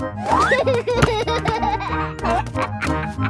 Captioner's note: giggles